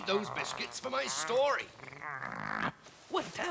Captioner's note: growling